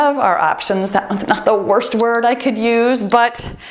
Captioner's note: timer beeps